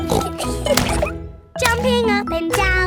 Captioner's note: snorts; giggling